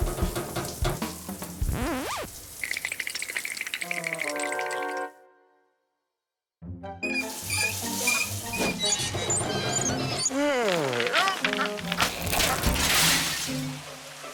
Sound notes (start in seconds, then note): 1.6 record scratches; 2.7 teeth chattering; 7.1 knob squeaking; 11.6 groaning